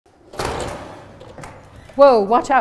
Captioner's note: door opening